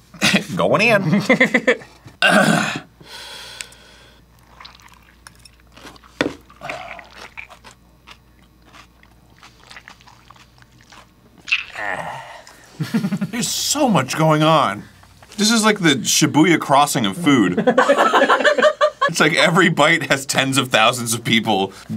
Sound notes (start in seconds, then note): 3.4 complete silence in the room; 9.4 continued curious chewing